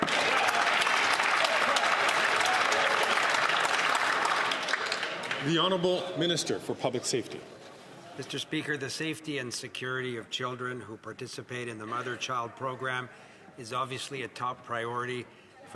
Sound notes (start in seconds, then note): 3.2 applause